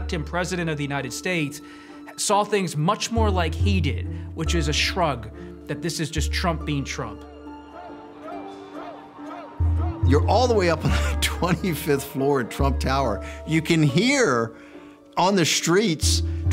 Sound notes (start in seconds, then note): 7.3 chanting in distance